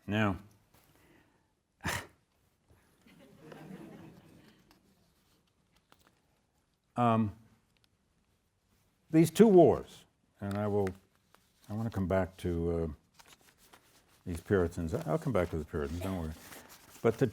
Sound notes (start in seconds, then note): 1.8 exhales; 3.1 audience laughs